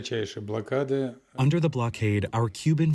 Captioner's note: through translator